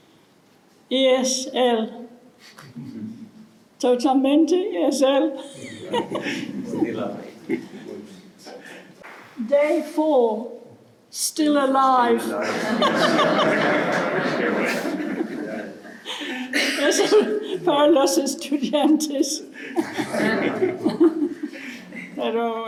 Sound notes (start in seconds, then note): 5.4 laughs; 19.6 laughs